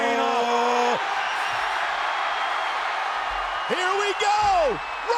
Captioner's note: crowd cheering